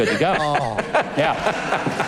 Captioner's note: laughing